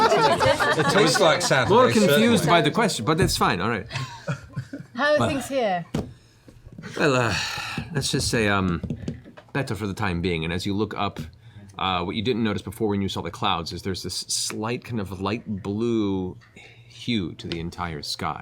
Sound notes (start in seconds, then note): 1.9 laughter; 6.8 sighs